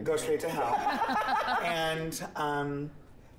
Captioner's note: hosts laughing